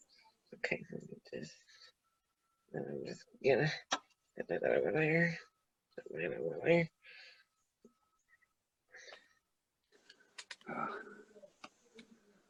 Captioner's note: muttering while taking wig off